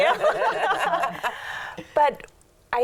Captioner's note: all laughing